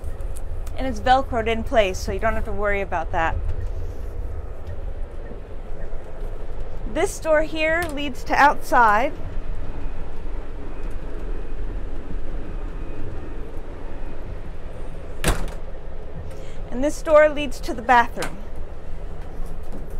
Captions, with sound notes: And it's velcroed in place, so you don't have to worry about that. This door here leads to outside. [door clicks open] [door shuts] And this door leads to the bathroom. [door clicks open]